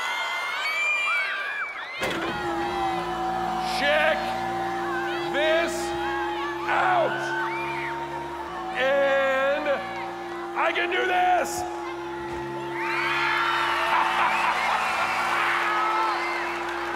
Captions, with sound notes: Check this out! And... I can do this! [crowd screaming]